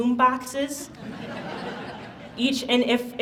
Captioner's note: audience laughs